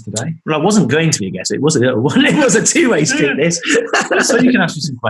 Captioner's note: laughing